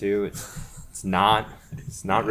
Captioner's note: laughs